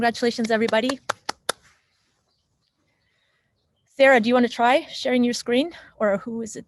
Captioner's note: clap